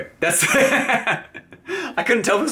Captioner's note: laughs